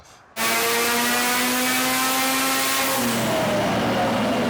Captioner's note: engine roaring